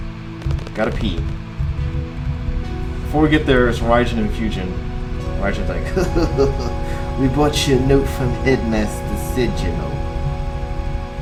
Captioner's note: old mafioso accent